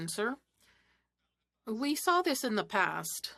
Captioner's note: speaking French